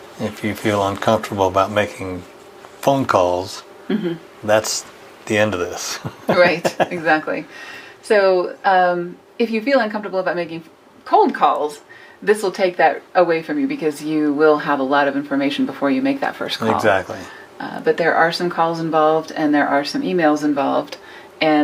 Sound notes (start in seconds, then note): 5.8 chuckles